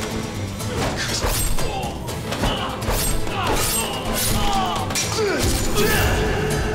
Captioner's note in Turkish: Bağırma sesi; Kılıç sesi